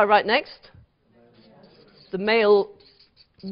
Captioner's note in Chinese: 無聲